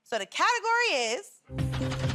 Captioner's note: none